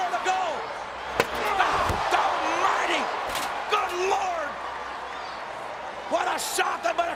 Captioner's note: chair ringing